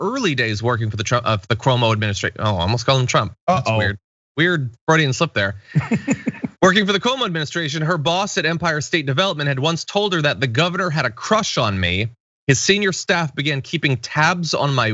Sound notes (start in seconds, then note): 5.7 laugh